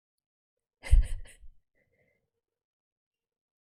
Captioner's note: laughs